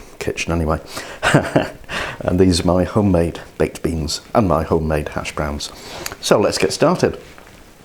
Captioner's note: laughs